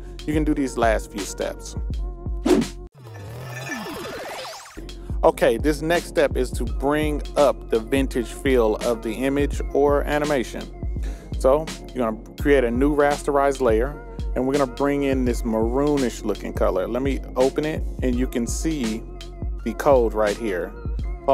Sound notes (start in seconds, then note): 2.4 whooshing sound